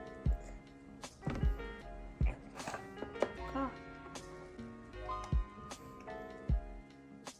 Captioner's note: rubbing